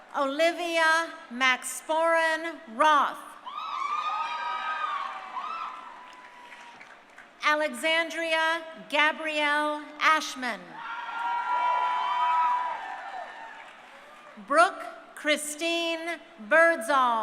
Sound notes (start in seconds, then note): 3.5 crowd cheering; 10.8 crowd cheering